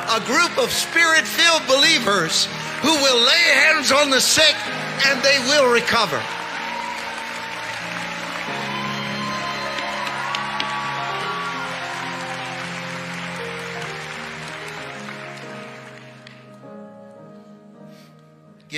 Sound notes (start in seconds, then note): 6.7 congregation cheering; 9.2 gentle piano music